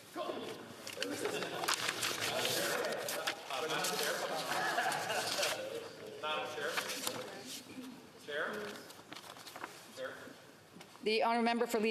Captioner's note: speaking French